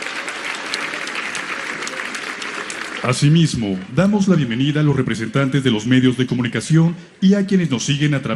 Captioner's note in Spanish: aplausos